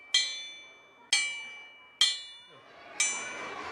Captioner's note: bell chimes